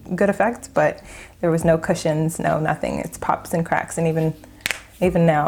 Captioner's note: cracks knuckles